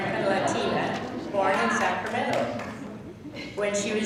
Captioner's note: laughing